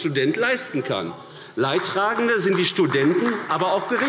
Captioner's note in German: Beifall AfD